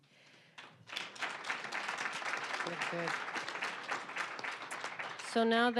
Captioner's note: applause